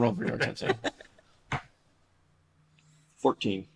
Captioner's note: laughter